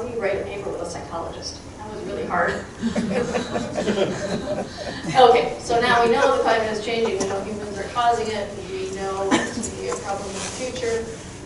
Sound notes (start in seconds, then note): 2.6 crowd chuckling